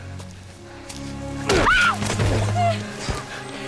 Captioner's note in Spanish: Gel grita